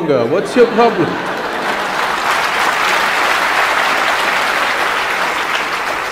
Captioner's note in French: rires / applaudissements